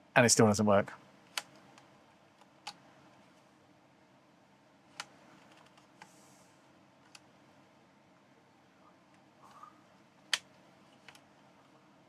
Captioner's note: silence